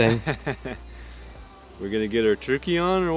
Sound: laughing

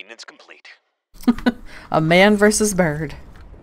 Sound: laughs

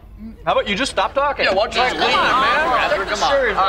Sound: chattering

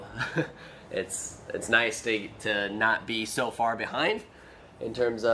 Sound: chuckling

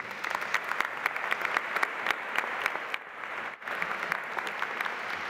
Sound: audience applauding

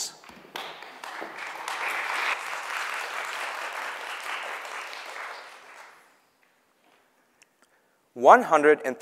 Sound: audience clapping

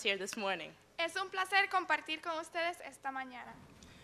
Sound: speaking in spanish

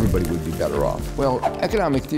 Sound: air whooshing

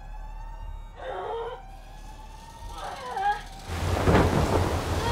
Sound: groaning

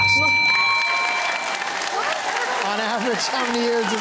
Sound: cheering and applause

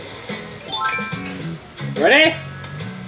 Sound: chimes as sparkler appears

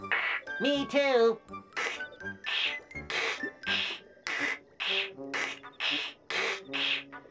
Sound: imitating radio static

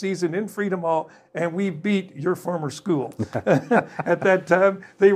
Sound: laughs

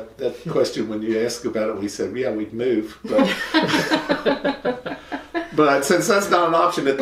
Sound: laughter

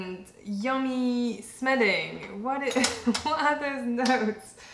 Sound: laughter

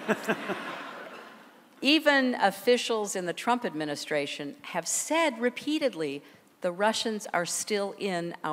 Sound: laughter

